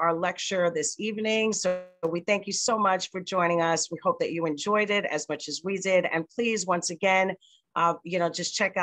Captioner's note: slight distortion